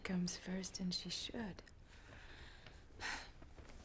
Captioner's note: sighs